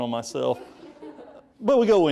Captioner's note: audience laughing